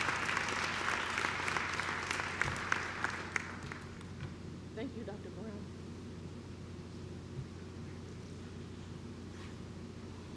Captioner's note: clapping